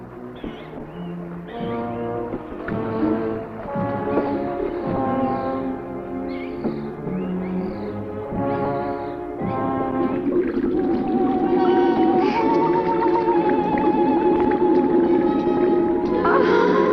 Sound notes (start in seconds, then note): 10.0 water bubbling; 11.5 tense music continues